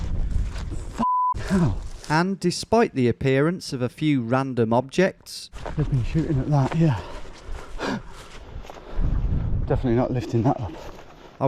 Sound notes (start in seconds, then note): 1.0 beeps